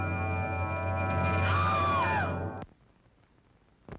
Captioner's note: screams